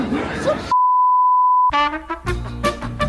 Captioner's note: production cut beeps